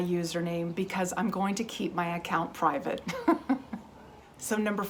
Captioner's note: laughs